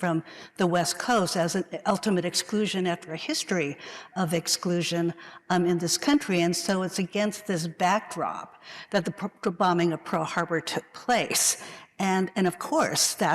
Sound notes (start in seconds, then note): none